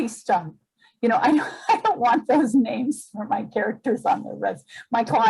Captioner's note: laughs